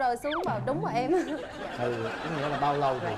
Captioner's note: laughing